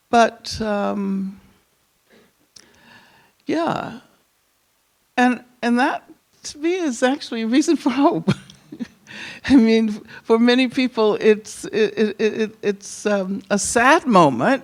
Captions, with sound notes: But yeah, and that, to me, is actually a reason for hope. (chuckles) I mean, for many people it's a sad moment